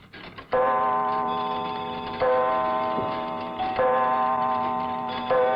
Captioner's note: clocks chiming